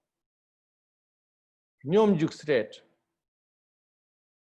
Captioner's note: tibetan